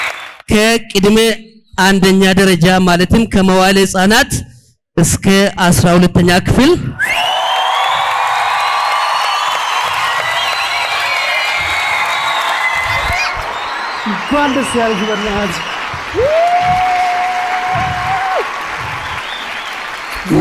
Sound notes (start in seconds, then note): 0.0 applause and scream; 6.9 applause and scream; 16.1 scream; 18.8 applause